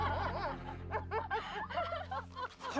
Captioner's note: sniggering